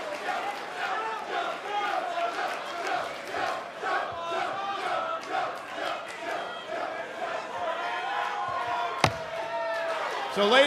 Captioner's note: fans chanting